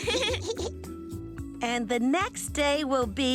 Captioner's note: both giggling